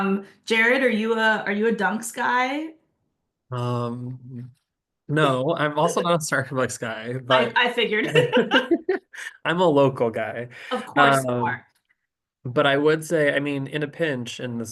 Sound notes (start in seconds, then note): 8.0 laughter